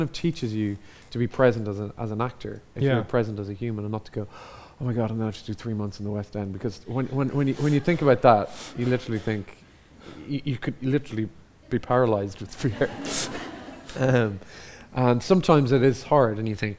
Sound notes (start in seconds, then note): 12.6 audience laughs